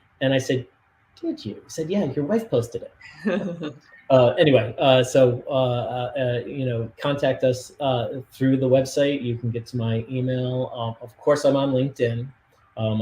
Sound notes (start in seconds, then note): 3.1 laughs